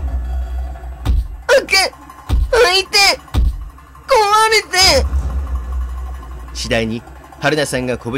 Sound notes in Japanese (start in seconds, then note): 1.3 窓を叩く音：ドン！ドン！ドン！